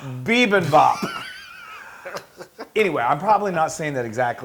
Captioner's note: laugh